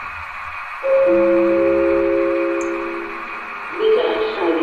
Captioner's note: gong and announcement